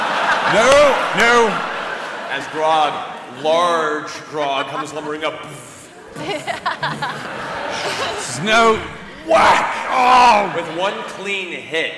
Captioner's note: heavy footsteps, whack